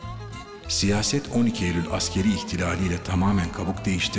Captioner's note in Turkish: Ahmet dış ses